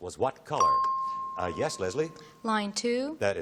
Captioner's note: ping